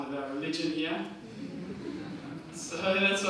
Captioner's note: audience laughter